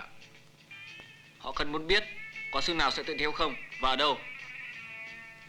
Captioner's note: Malay spoken audio